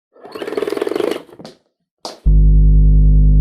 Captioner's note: rotary winding; deep tone